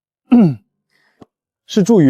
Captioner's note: cough